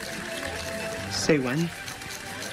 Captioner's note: cheese grater cranking